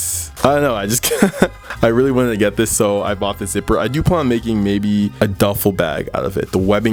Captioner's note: laughs